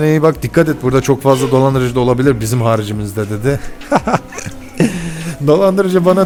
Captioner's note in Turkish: kahkaha